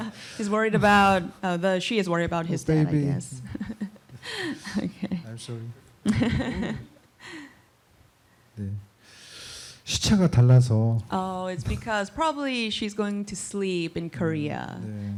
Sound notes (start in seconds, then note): 2.7 speaking korean